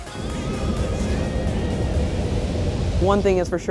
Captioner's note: wind blowing